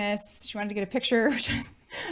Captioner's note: chuckling